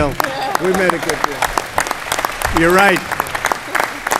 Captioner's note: applause